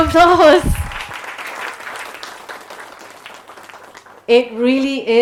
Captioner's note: audience applauding